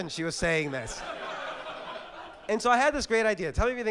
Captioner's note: audience laugh